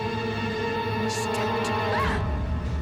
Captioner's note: whispers